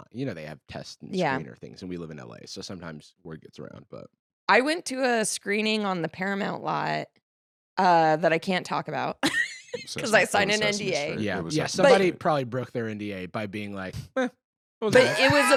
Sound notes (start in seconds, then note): 9.8 laughs